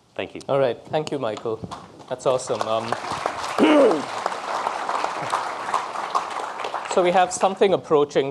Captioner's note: audience applause